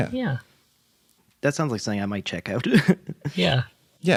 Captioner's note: laughs